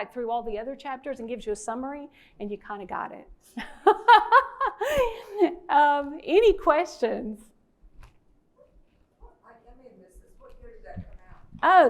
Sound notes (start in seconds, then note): 3.6 presenter laughing